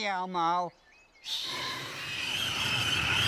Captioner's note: whoosh